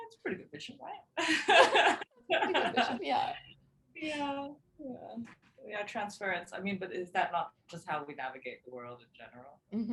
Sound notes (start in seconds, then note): 1.5 both chuckling